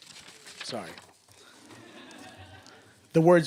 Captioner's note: laughter